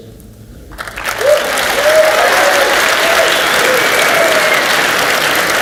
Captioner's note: audience cheers and applauds